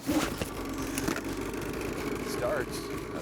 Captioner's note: engine whirring